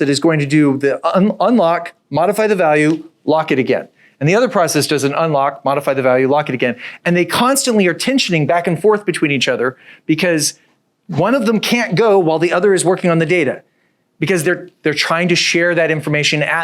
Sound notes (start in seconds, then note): none